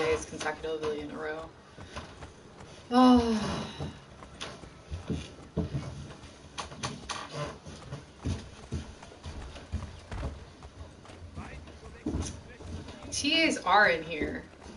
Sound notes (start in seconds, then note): 2.8 sighs